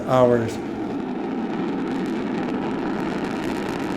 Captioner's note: rocket roaring